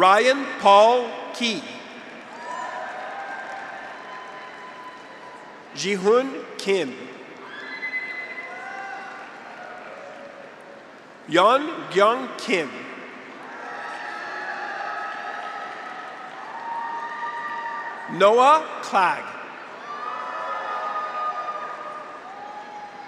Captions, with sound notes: Ryan Paul Keyes. (graduates cheer) (audience applauds) Jihoon Kim. (graduates cheer) (audience applauds) Yoon Kyung Kim. (graduates cheer) (audience applauds) Noah Klag. (graduates cheer)